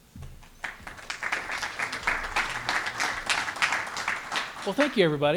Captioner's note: applause